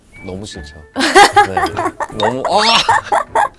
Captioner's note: hahahahahahaha